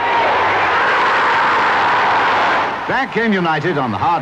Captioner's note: crowd roaring